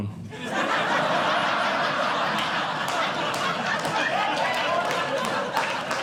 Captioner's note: audience Laughing; audience Clapping